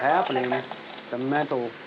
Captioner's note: chatter over police radio